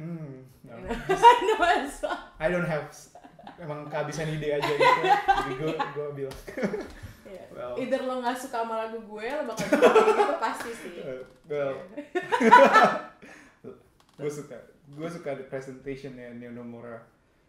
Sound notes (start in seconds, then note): 0.8 laughter